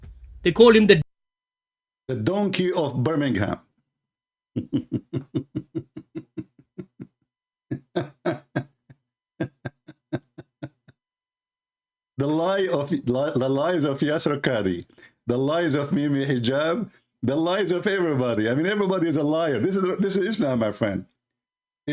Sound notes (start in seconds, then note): 4.4 Ketawa